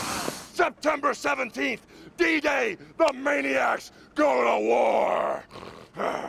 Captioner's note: snorts